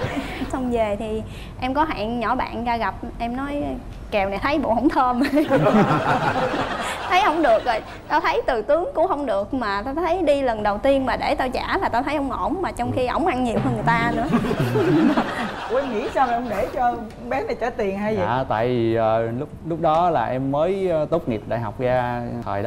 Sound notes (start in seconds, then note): 7.2 laughing